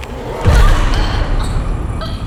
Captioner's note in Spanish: huesos crujiendo; Lynette grita; Lynette se ahoga